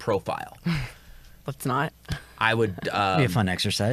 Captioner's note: chuckles